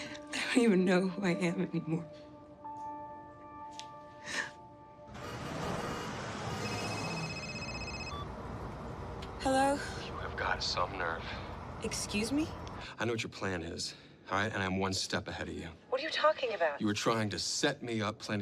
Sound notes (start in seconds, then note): 5.1 car horn honks; 6.7 phone rings